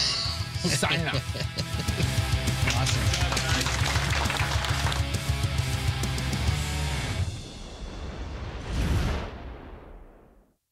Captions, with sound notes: Signing off. [applause]